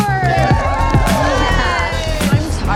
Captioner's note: women cheering